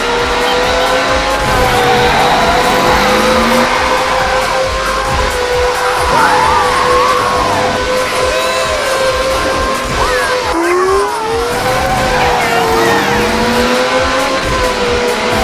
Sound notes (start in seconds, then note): 1.7 tire screeching; 3.7 kart whizzing past